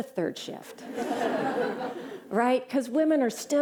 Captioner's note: laughter